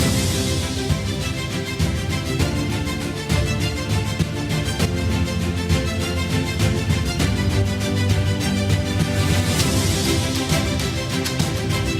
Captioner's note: applause